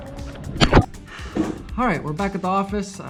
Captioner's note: splash